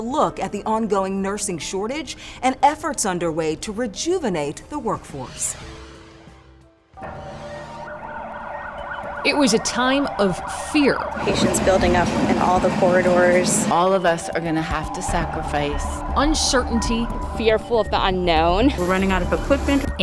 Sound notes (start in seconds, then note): 5.2 transition whooshes; 7.5 siren blares